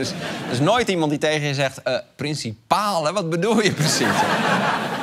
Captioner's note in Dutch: gelach